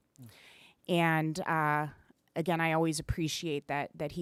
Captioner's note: none